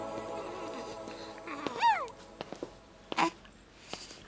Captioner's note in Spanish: baby coos